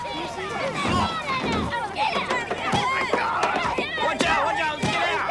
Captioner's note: people clamoring